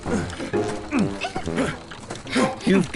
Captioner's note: Evie grunts